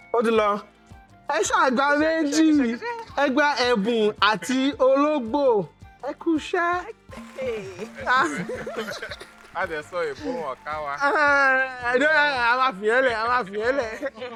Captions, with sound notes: Your time is up. You got two points. You got gift and cat. Well done! (Laughs) And we spoke English but they didn't press the button… let's leave that.